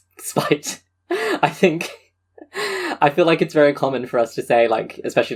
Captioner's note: laughing